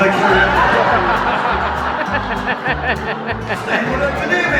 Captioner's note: audience laughing